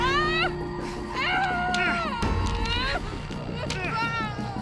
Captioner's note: person screaming